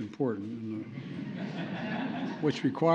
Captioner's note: laughter